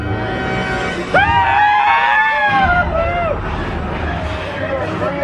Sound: both scream

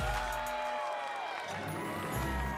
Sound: cheers and applause

